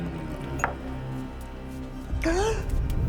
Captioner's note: gasps